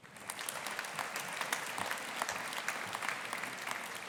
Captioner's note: audience applauding